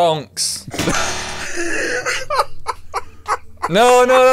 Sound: laughter

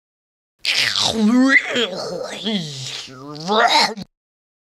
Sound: in Clay Speech

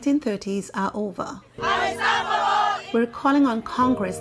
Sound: chanting

